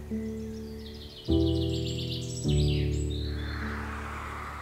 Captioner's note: slow soft music; birds chirping; traffic humming